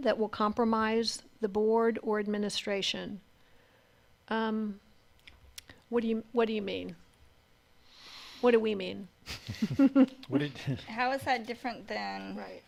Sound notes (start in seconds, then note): 9.3 laughs